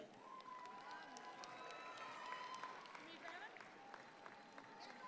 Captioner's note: audience claps